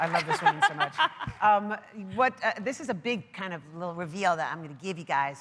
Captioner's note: applause